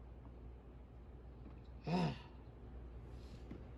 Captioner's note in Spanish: suspira